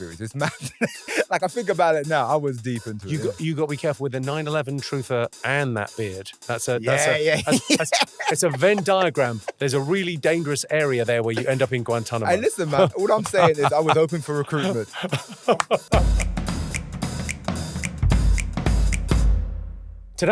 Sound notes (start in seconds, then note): 6.8 laughing; 15.3 Jimmy laughing; 16.2 upbeat music continues